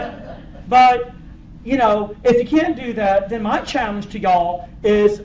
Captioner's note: laughter